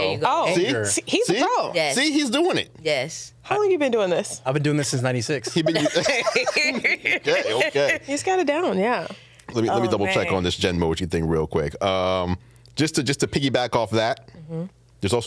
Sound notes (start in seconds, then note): 5.5 laughing